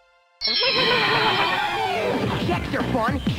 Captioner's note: zorching